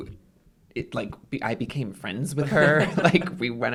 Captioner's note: laughter